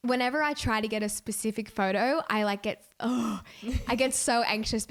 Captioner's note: groaning